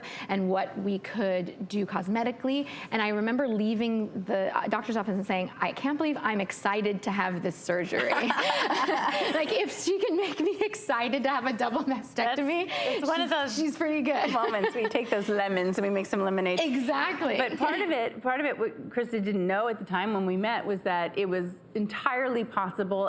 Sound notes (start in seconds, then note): 8.0 laughs